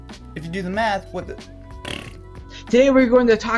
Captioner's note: blows raspberry